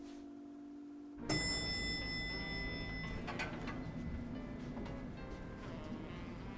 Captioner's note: elevator Dinging